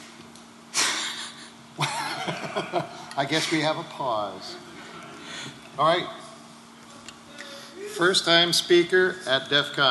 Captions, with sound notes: we have a pause. All right. >> First-time speaker at DEF CON! >> Woo-hoo! (Laughter)